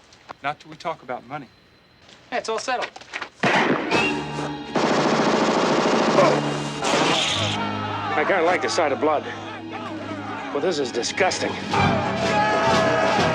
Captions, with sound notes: - Not till we talk about money. - It's all settled. (Gunshot) (Rapid gunfire) I kinda like the sight of blood, but this is disgusting. (Yelling)